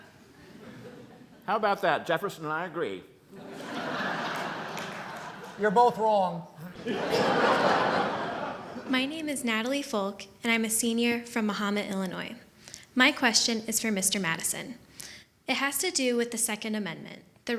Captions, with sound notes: How 'bout that, Jefferson and I agree. (laughter) - You're both wrong. (laughter increases) - My name I Natalie Falk, and I'm a senior from Mahomet, Illinois. My question is for Mr. Madison. It has to do with the second amendment,